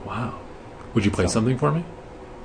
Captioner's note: voiceover